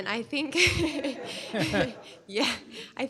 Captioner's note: laughter